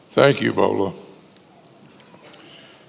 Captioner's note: none